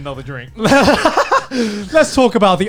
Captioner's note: laughing